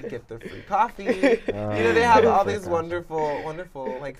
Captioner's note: laughter